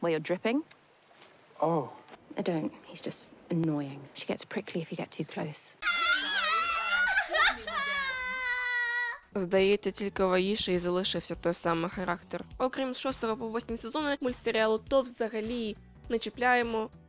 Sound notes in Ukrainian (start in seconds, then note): 5.8 радісні крики